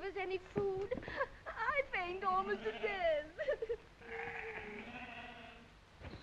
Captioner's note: sobbing